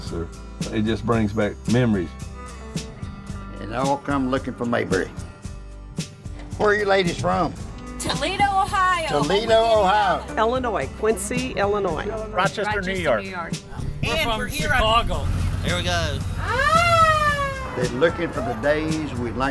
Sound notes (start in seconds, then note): 15.7 old siren wails